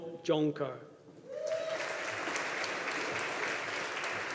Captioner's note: audience applauding